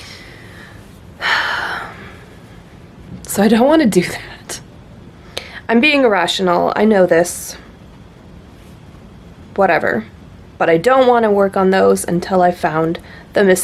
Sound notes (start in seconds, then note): 1.2 heavy sigh